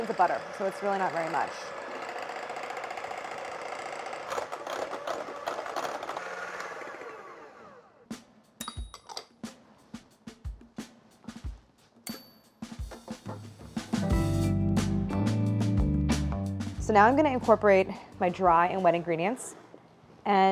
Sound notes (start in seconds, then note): 2.1 mixer whirring; 8.4 soft bright music